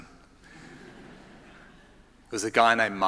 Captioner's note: audience laughing